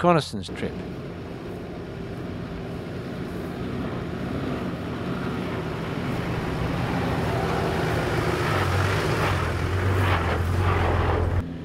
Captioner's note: vehicle sounds